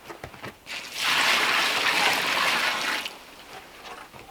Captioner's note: water pouring